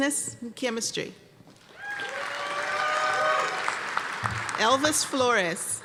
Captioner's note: applause and cheering